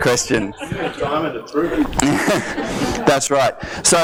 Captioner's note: voiceover